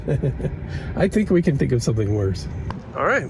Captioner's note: laughing